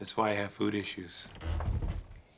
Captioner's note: thud